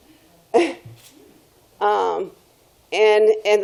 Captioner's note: laughs